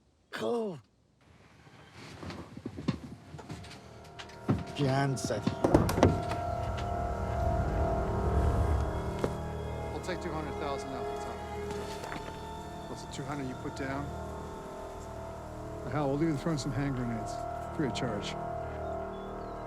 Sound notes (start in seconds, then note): 4.8 Assad speaks in foreign language